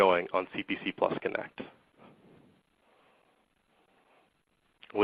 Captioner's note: silence